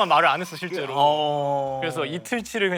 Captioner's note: gasping